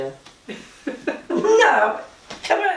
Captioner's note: laughter